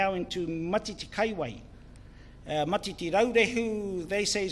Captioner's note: speaks in foreign language